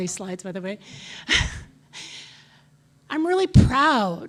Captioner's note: chuckles